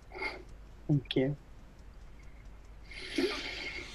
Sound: sighs

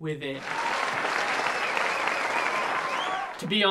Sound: applause

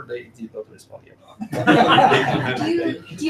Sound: laughing

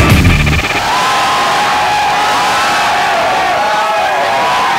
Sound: crowd cheering

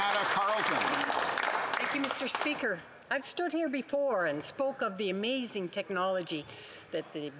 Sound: applause

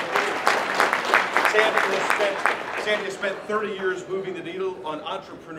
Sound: applause

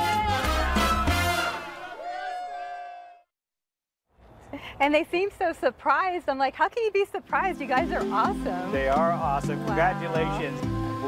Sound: cheering and laughing

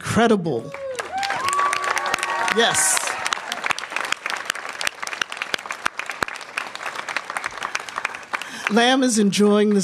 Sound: applause

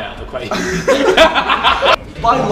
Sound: group laughs

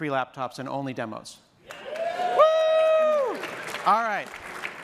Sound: cheers

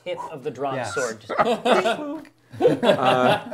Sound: laughing

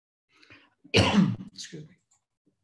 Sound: cough

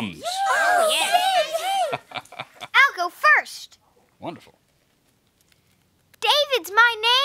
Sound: laughter

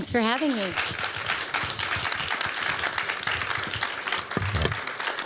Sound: applause

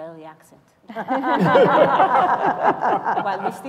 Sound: laughter

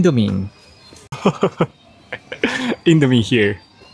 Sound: chuckles

